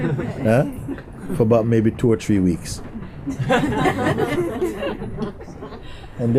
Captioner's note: laughter